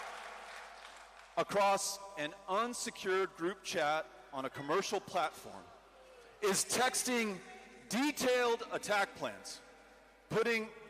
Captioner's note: cheering